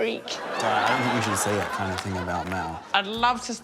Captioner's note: laughter